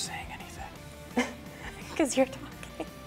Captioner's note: chuckles